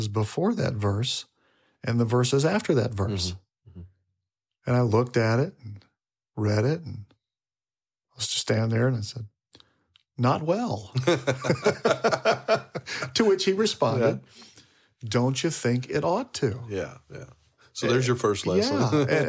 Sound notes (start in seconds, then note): 10.9 laughing; 13.4 laughs